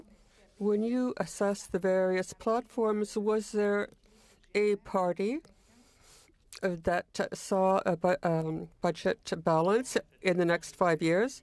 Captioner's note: speaking French